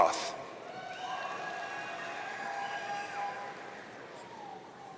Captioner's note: audience cheering